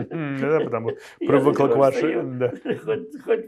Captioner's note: laughing